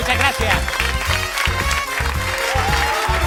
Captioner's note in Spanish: Aplausos